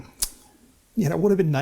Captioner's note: lip smack